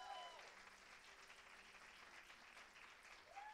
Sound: cheers and applause

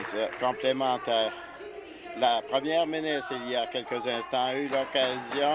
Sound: applause

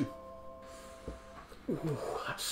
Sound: sniff

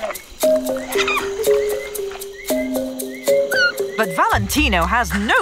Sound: Valentino moaning

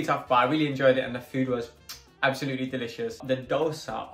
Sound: kisses

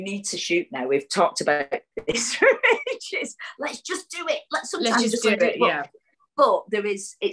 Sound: laughs

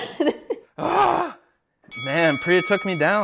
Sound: laughs; bell rings

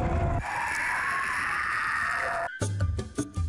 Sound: more screeching

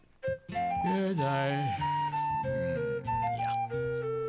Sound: yawning

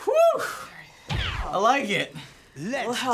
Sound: in game: zapping

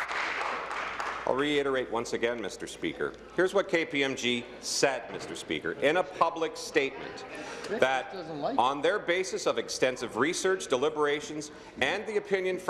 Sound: applause

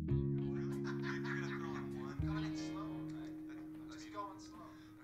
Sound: TV chatter

